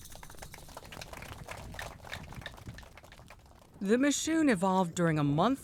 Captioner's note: audience applauding